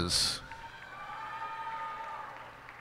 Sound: cheers and applause

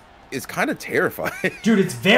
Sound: laugh

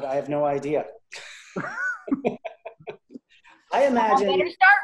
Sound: laughing

